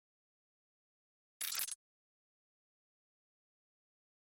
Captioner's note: audio glitches